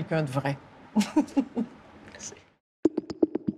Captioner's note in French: petit rire